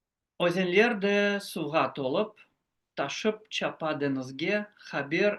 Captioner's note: speaks in foreign language